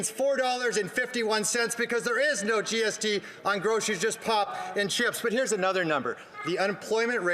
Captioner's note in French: voix de l'interprète